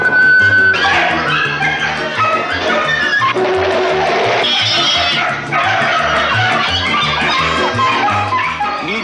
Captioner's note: dog & Cats Bark & Meow